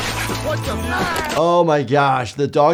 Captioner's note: yells